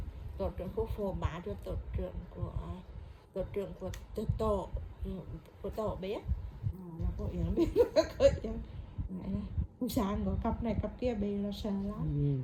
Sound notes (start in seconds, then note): 7.8 laugh